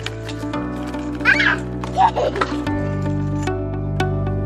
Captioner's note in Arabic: ضحك